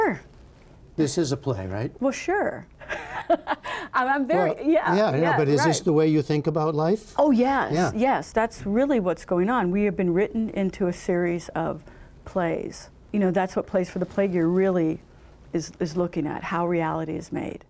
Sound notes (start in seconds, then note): 2.8 laughter